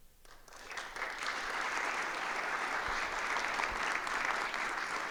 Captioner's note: audience applauds